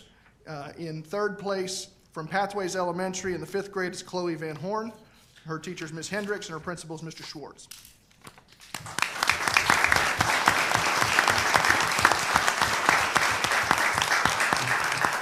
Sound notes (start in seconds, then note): 8.6 applause